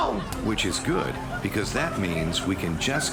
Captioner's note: studio audience laughs